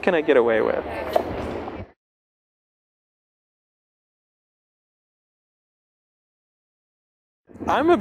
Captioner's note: pause